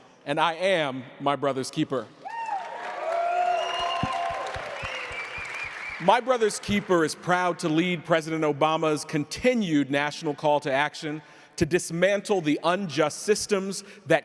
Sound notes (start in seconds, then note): 2.2 crowd cheering